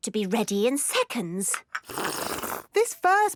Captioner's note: slurping